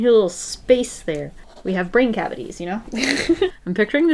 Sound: laughs

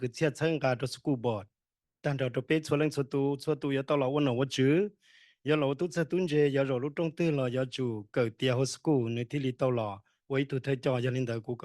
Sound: speaking in foreign language

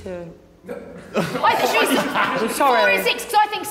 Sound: Sideman laughing

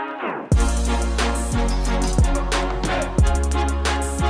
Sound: none

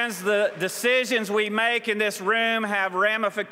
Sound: applause

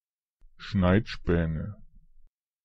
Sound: fast Pronunciation

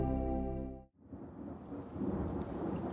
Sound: thunder crashes; rain falling

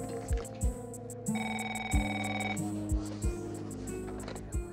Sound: phone ringing

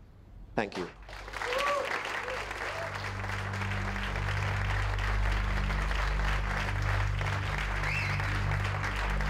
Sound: applause

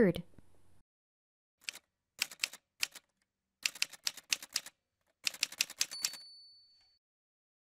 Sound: typewriter sounds

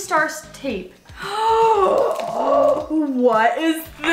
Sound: gasp

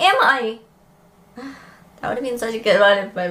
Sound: sighs

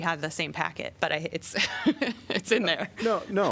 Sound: laughter

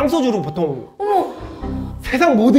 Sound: gasping

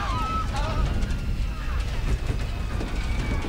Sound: passengers screaming; groans

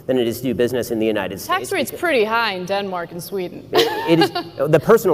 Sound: laughs

